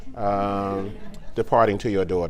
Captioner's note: laughing